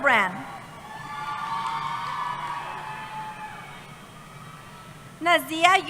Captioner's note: cheering